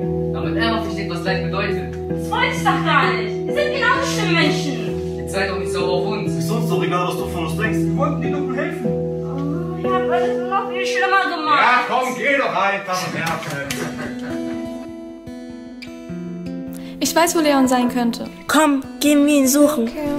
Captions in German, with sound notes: Damit er mal versteht, was Leid bedeutet. Dass wollte ich doch gar nicht. Ihr seid genau so schlimme Menschen. Jetzt sei doch nicht sauer auf uns. Ist uns doch egal, was du von uns denkst. Wir wollten dir doch nur helfen. Ahh. Ihr habt alles nur noch viel schlimmer gemacht. Ja komm, geh doch einfach und nerv nicht. [Die Schüler lachen] Ich weiß, wo Leon sein könnte. Komm, gehen wir ihn suchen.